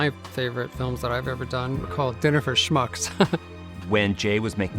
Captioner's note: laughs